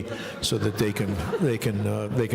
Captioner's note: laughing